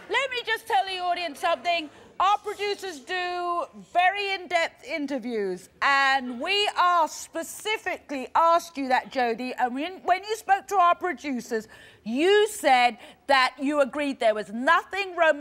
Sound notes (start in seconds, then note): none